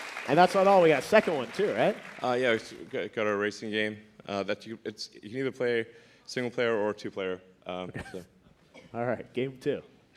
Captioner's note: applause